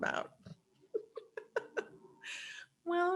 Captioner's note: laughing